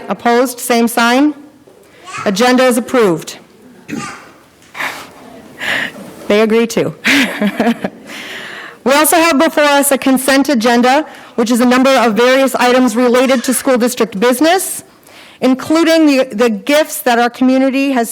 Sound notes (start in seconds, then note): 3.8 child chattering; 7.0 laughs